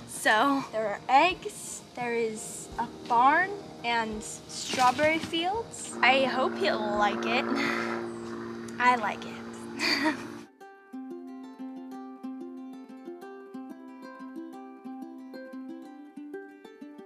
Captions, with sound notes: So there are eggs. There is a barn and strawberry fields. I hope he'll like it. I like it. (giggling) (happy guitar music)